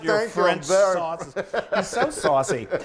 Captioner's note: laughs